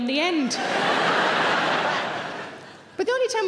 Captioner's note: audience laughs